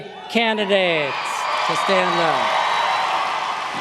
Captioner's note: cheers and applause